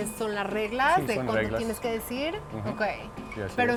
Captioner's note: speaking Spanish; both speaking Spanish